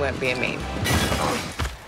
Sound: crash

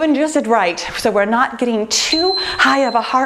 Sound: timer beeping

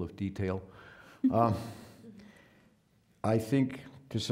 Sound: scattered chuckling

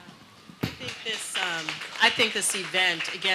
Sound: audience applauding

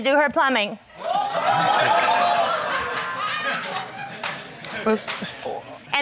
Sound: crowd gasping

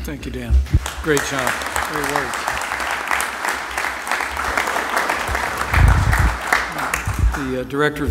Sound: applause

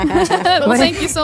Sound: contestant laughs

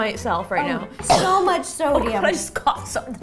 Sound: coughing

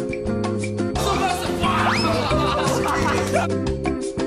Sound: laugh

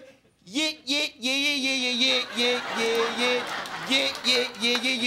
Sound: vocalizing

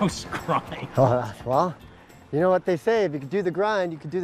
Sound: laughs

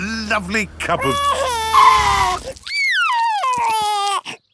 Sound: tires screeching; crying

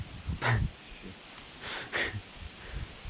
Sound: chuckling

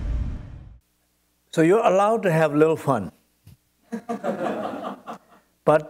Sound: laughter

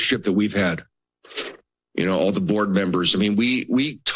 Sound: sniffles

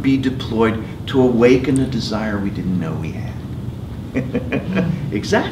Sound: laugh

